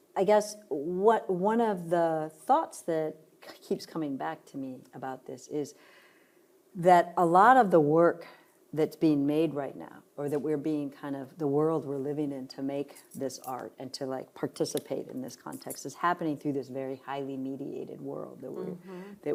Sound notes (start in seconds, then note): none